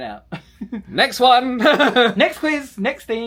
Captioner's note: laughs